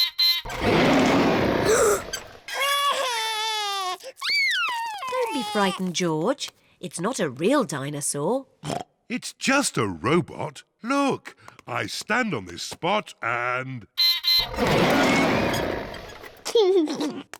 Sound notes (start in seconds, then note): 1.3 gasps and cries; 8.6 oinks; 12.6 beeps and roars; 14.9 laughs